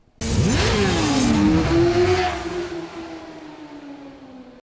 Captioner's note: motorcycle engine roaring